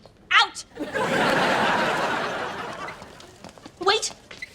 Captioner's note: audience laughing